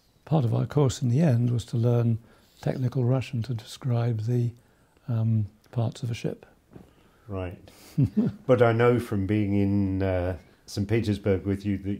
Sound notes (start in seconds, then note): 7.8 chuckles